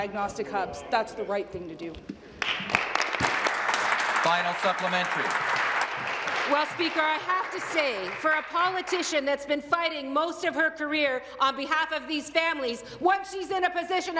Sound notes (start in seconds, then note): 8.4 applause